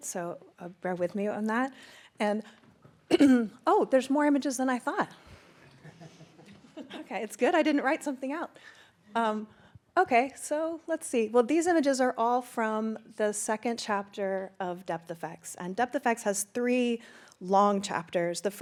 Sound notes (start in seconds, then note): 3.1 clears throat; 5.7 laughs